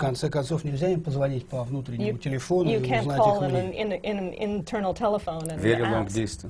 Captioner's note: foreign language not transcribed